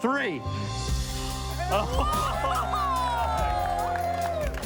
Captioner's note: cheering and clapping